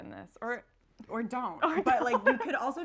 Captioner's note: laughs